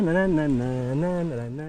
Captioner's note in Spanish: tararea